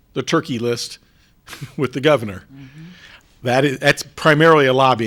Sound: chuckles

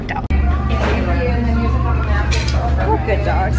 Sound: chattering

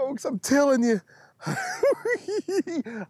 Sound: giggling

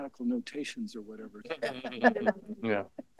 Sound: laughter

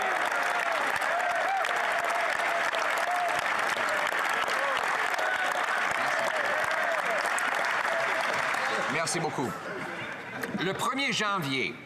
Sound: some Applause

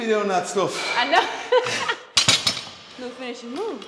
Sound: laugh

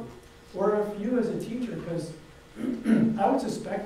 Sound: clears throat

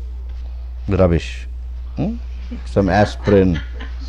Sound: laughter

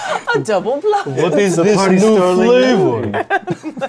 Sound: accented vampire voice

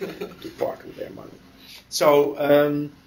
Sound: laughter

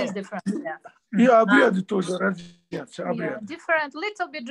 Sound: in Russian

